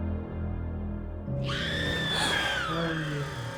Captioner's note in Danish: uhyggelig SCREAM